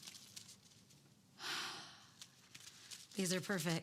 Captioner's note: Cassie sighs